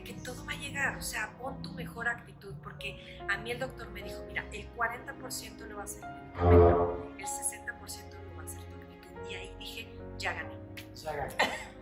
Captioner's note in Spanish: risas